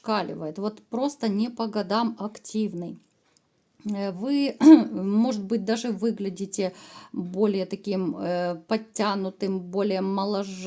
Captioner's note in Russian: откашливается